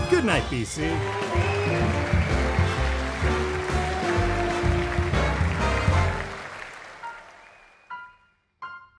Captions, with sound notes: Goodnight, BC. (audience cheering)